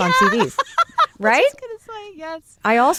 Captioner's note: laughs